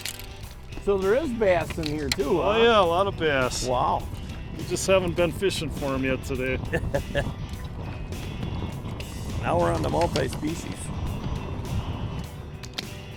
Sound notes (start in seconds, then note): 6.6 laughing